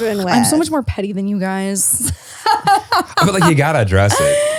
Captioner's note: laughs